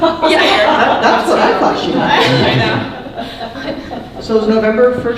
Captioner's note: laughing drowns out speaker